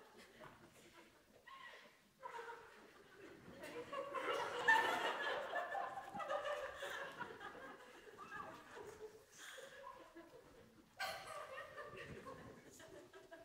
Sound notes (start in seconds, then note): 2.9 intermittent laughter